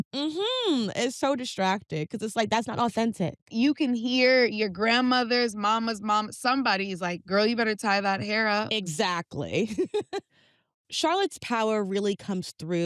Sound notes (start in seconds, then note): 9.7 laughs